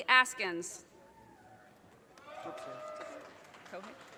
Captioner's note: audience cheers and applause